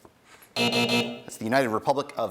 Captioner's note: buzzing